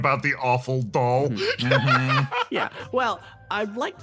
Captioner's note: laughs